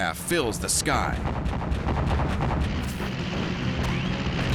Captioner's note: flak fire